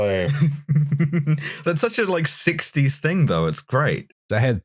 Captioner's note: chuckles